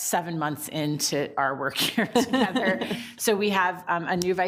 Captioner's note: group laughs